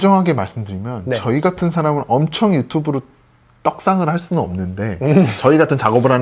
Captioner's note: laughs